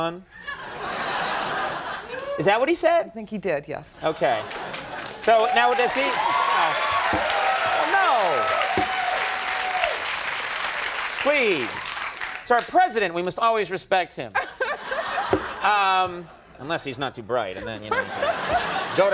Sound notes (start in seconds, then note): 0.4 audience laughing; 4.1 audience cheering, clapping, laughing; 14.4 Alison laughing